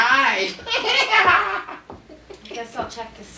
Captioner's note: irritating laugh